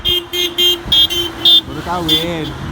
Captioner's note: cars honking